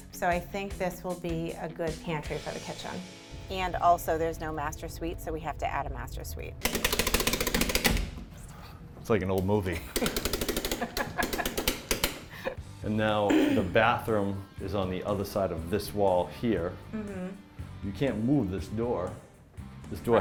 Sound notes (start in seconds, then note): 6.8 clicking; 10.6 laughing